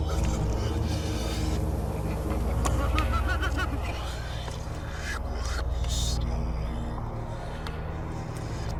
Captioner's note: laughter and water swishing continues